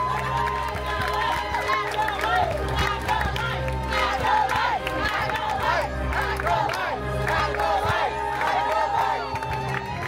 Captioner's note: guests chanting “Acolytes!”; guests cheering and applauding